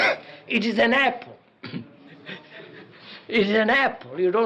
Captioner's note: laughs